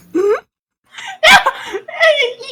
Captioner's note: inhale